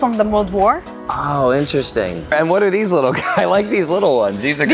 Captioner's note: laughs